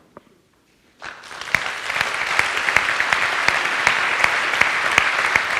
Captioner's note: audience applauds